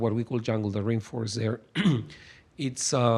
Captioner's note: clears throat